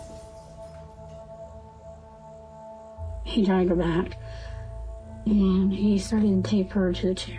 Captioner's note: glass shattering